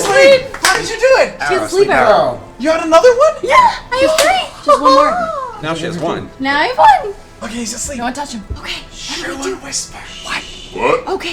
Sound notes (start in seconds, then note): 7.5 whispers